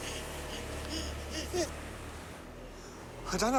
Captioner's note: gasping